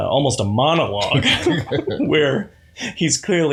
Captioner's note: laughter